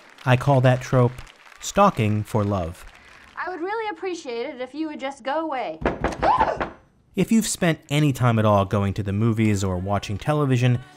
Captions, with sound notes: I call that trope Stalking For Love. "I would really appreciate it if you would just go away." [knocking on the door] [woman screams] If you've spent any time at all going to the movies, or watching television,